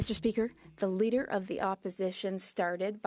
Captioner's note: speaking French